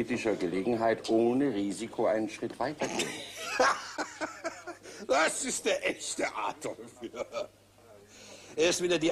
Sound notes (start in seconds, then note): 2.8 laughs